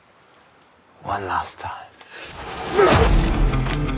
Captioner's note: grunts